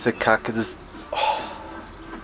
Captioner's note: sigh